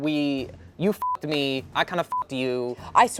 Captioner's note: beep